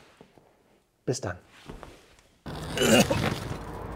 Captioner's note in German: Husten